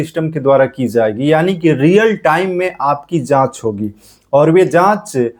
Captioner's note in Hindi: नाक से की जाने वाली आवाज़